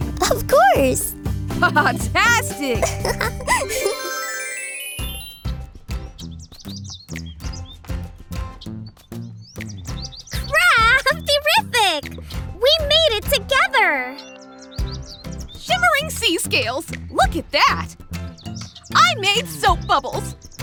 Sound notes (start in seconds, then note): 2.6 laughs; 3.4 transition tones